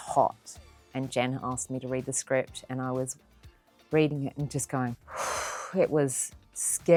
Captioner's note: exhales